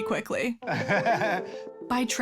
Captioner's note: laughs